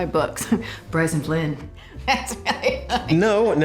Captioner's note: drucinda laughing